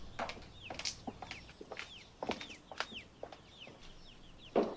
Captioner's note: door thuds; feet clacks